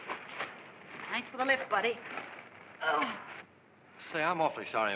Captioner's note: groans